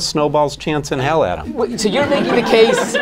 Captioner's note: laughter